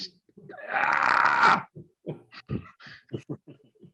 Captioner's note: groans